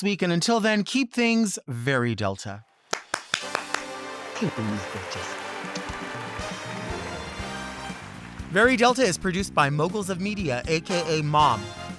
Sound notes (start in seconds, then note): 2.9 clapping; 6.0 glamorous music